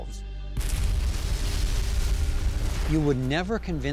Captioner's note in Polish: dźwięk eksplozji